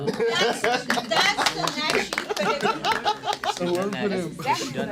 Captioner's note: students murmur